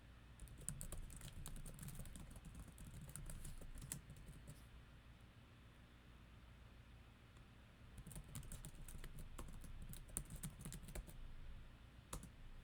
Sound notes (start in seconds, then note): 0.4 keyboard typing